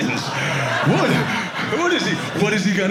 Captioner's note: audience laughing